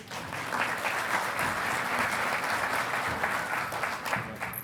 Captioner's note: audience applauding